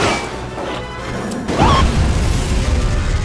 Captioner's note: dink; boom